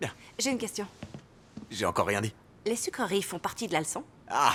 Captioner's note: none